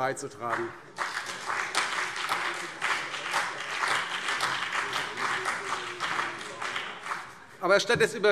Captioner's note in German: Beifall CDU und BÜNDNIS 90/DIE GRÜNEN